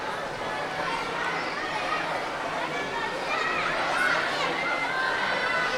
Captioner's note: audience chattering continues